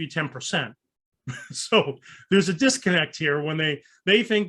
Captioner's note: chuckles